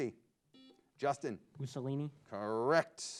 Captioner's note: buzzer beeps